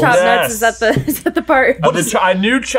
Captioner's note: chuckles